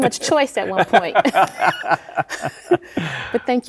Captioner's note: both laughing